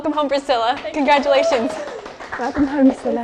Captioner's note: applause